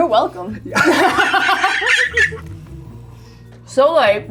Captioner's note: laughs